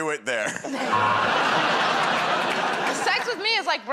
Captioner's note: buzzer